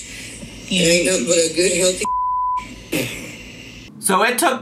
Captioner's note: beeping